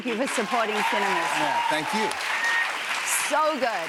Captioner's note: cheers and applause